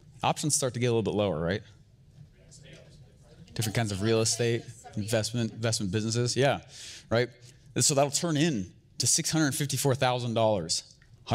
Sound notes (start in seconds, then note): 3.2 audience chattering